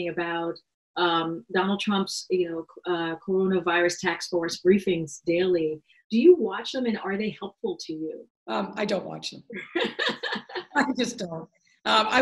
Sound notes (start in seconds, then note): 9.6 laughs